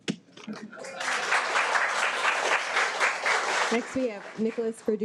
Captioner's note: audience applauding